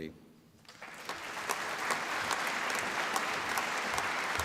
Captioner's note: applause